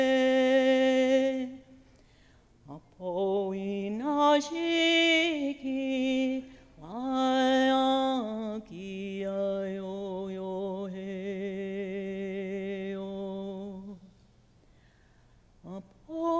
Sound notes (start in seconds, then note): none